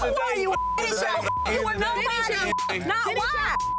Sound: beep

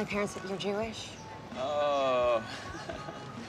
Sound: exclaims; chuckles awkwardly

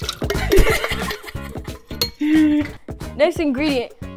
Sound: laughs

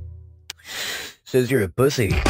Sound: sharp breath

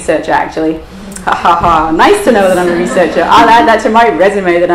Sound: imitates laugh

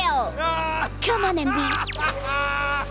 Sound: Tobor laughing

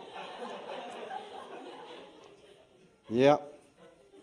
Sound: laughter

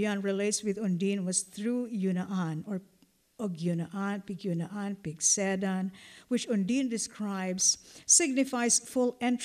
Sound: non-english

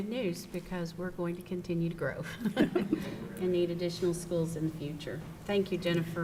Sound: chuckles

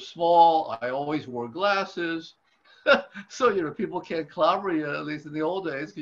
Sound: laughs

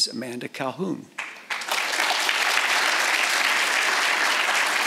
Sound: audience applauds

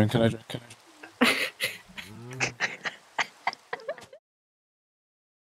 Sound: laugh

